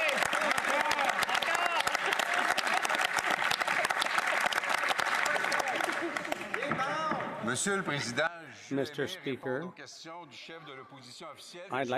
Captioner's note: some Applause